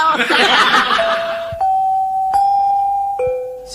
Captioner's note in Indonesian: tertawa